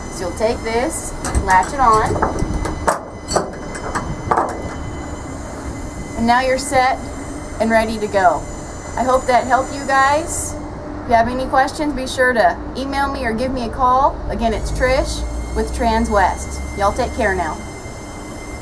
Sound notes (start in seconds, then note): 4.1 latching on cable